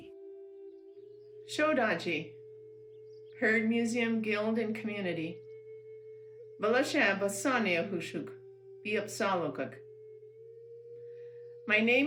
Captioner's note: non-english speech